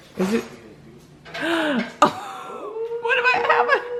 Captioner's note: gasps